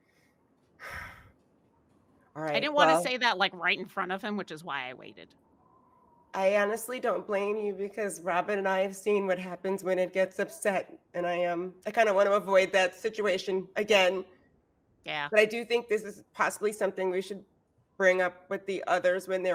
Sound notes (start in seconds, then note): 0.8 sighs